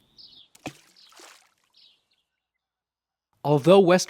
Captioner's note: splash